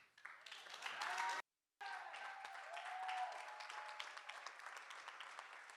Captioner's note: audience cheering and applauding